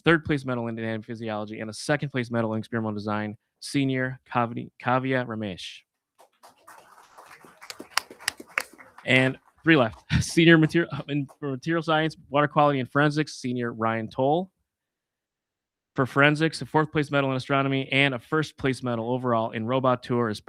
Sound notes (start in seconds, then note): 6.2 audience applauding